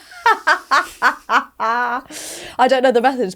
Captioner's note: laughing